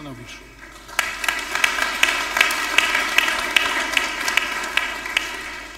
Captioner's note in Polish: oklaski